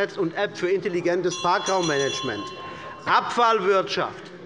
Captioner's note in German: Unruhe - Glockenzeichen des Präsidenten